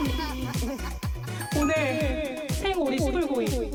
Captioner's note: essential event patter sound effect